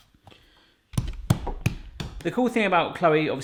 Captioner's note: light smacks upon dough